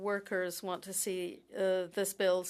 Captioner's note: speaking French